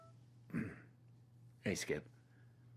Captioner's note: throat clears